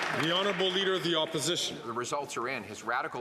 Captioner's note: some Applause